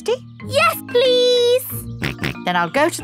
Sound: snorts

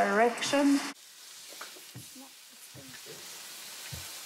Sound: oil sizzles

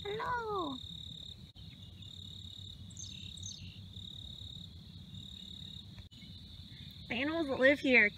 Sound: crickets and birds chirping

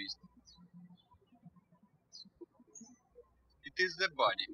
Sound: birds chirping

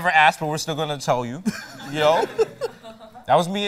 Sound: laughter

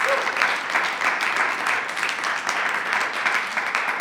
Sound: attendee cheers

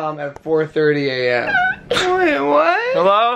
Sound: squeal

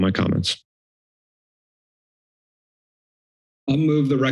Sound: silence

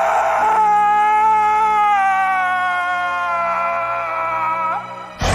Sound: screaming; roaring

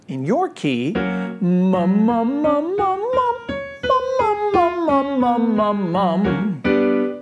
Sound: soft music continues; jabbers

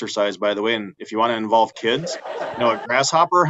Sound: audience laughing

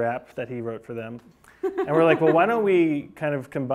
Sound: laughing

